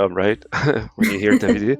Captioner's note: laughter